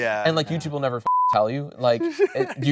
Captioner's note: beep